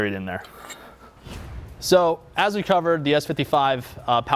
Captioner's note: air whooshes